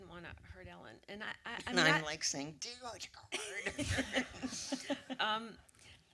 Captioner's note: laughter